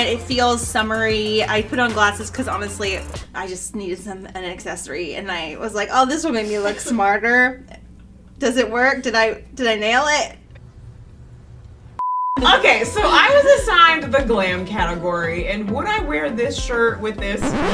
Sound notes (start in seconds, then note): 12.0 beep